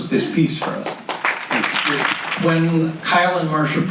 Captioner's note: audience claps